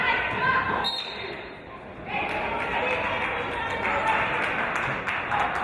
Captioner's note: referee's whistle